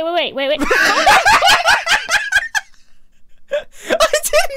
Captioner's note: laughs